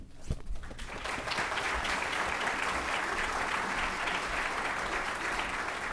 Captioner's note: applause